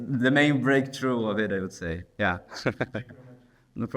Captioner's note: laughs